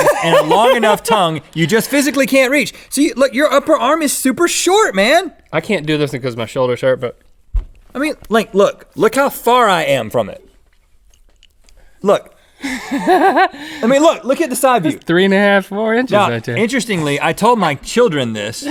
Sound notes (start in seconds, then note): 0.0 laughs; 12.6 Link laughs